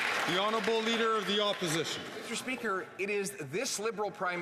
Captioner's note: some Applause